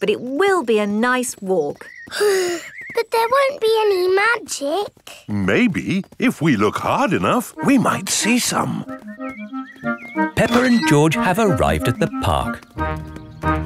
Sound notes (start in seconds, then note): 2.1 sighs